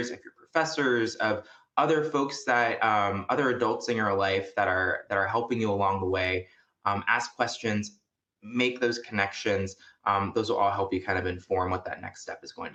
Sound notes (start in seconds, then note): none